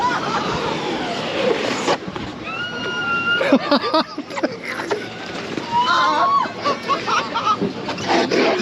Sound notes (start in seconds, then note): 3.4 laughing